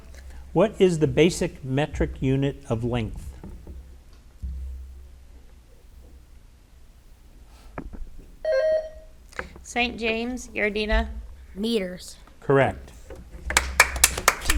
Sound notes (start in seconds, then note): 8.4 bell rings; 13.5 audience applauds